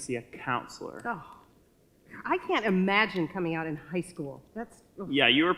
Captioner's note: sighs